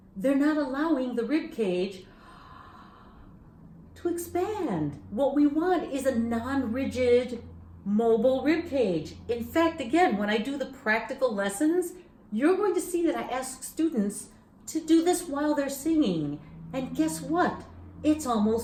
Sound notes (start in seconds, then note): 2.1 inhales deeply